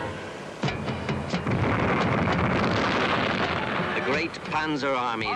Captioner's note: bombs blasting